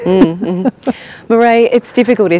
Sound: chuckles

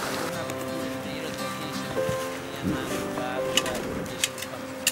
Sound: students chatting

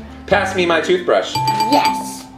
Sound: bell dinging

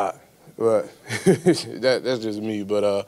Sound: laughs

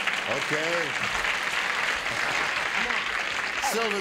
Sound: applause

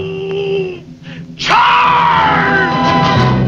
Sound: yells

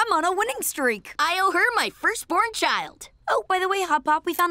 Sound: none

